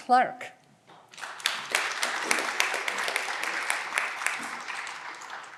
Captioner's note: audience clapping